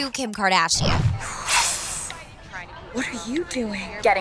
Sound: snake hisses

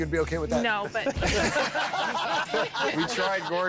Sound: laughter

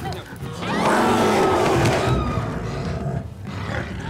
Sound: growling, screaming; guttural growling

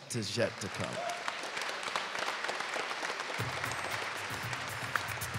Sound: audience applauding

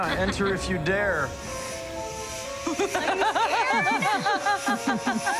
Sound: laughs

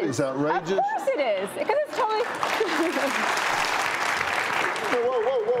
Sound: Lady gets cut off by people clapping for Dr.Phil's logic

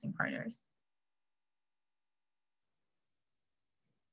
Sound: silence

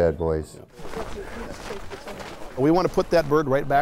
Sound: sound of boots walking on snow

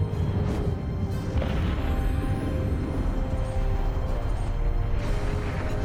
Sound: loud rumbling

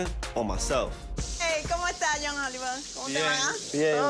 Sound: speaks Spanish

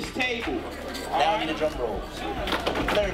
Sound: drumrolls on tables

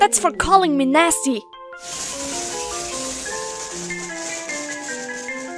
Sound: sssssssssssssss

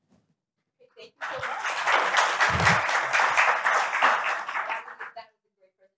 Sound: applause

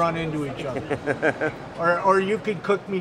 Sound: laughs

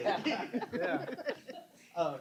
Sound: laughter

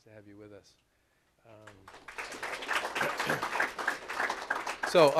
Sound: applause

